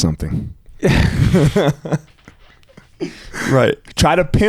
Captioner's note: chuckling